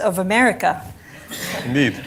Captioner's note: laughter